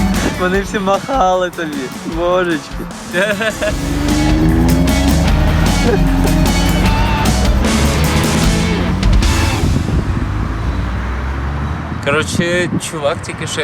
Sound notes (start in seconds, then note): 4.1 happy lough; 6.1 sound of engine; 8.1 energetic music